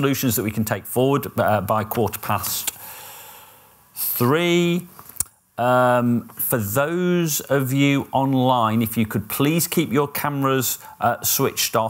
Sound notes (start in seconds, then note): none